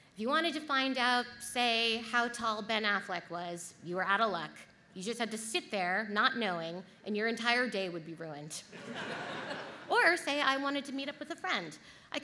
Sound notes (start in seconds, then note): 8.8 audience laughs